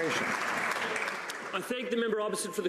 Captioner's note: some Applause